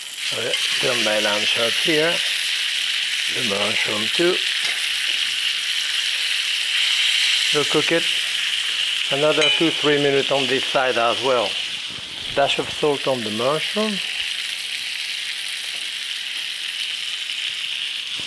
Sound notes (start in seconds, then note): 2.4 lamb chop sizzling; 4.7 pan sizzling; 14.2 pan sizzling